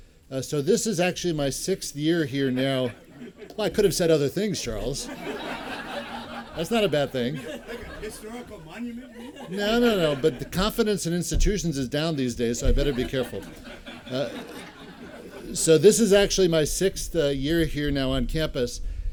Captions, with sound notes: So, this is actually my sixth year here now [laughter]. I could have said other things, Charles [laughter]. That's not a bad thing [laughter]. >> Historical monument, maybe? >> No, no, no, but the confidence in institutions is down these days, so I'd better be careful. [ Laughter ] So, this is actually my sixth year here now on campus.